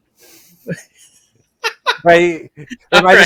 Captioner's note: laughing